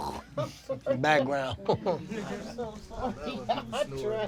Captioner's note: imitates snoring